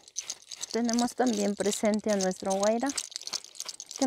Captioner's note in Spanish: viento